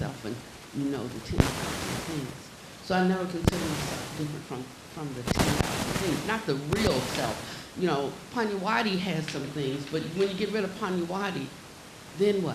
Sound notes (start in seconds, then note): 2.0 static hissing; 3.8 static hissing loudly